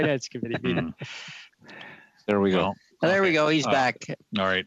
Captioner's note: laughter